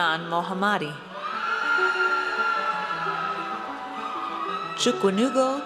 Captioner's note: audience cheers